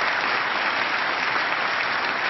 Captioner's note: applause